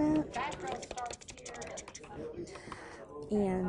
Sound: ticking sound; chatter

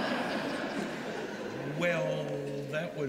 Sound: laughter

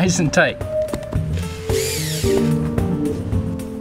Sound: whirring

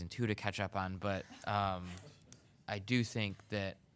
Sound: chuckling

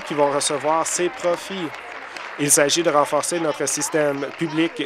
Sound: applause

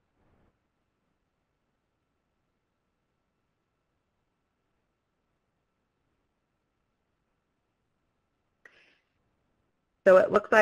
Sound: pause

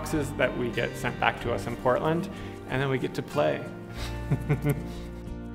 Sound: chuckles

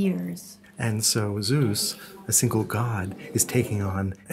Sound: voiceover

